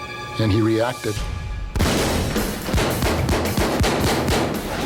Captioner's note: gunfire